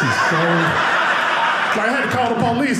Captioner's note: audience laughing